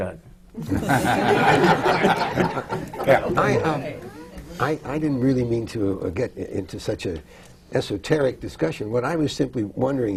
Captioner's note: laughter